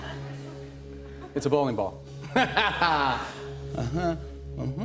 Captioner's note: laughter